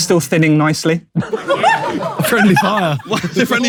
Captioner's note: people in room laughing